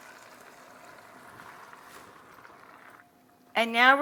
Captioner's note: stock splashing